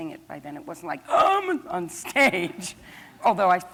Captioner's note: gasps